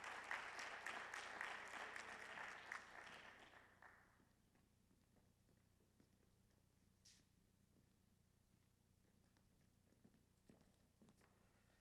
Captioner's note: applause